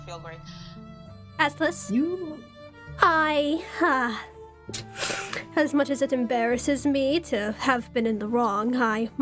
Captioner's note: inhales